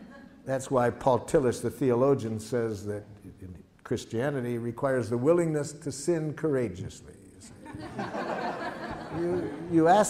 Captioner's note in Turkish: Gülüşmeler